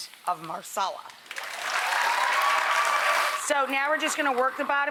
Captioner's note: audience claps